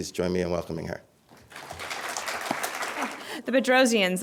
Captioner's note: applause